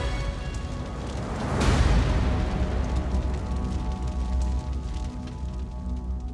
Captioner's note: flames crackling